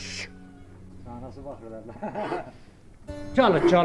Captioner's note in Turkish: Kahkaha